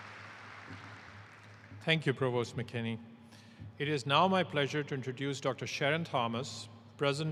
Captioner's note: applause